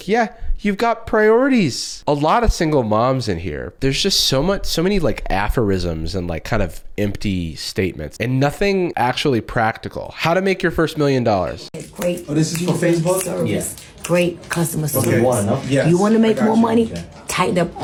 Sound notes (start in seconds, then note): 14.5 snaps